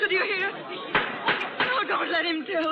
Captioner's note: crowd gasping